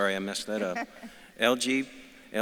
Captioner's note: laughs